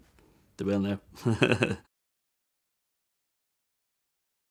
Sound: laughs

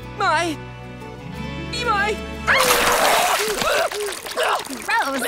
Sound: vomiting

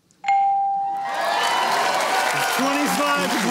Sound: cheering and applause

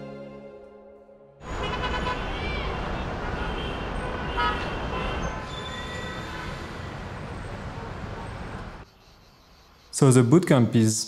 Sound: cars. Street Sounds

